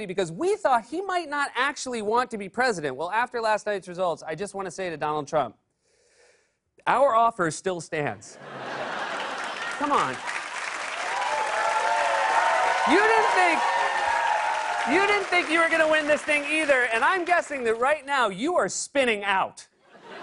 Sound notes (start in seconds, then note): 8.3 laughter; 10.9 cheers and applause